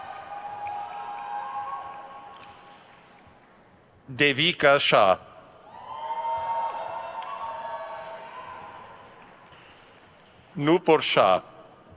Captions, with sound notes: Devika Shah. (crowd cheers) Nupur Shah.